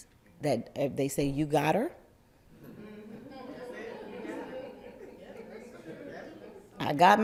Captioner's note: laughter